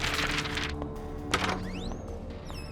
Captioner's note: door opens